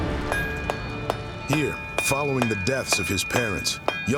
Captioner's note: pounding metal